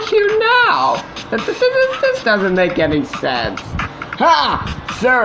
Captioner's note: stuttering